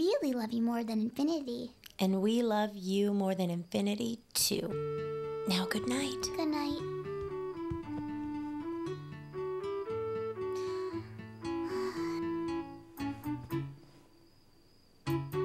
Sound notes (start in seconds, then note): 11.4 sighs